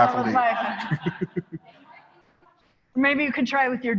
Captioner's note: laughter